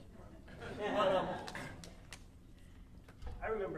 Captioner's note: audience laughing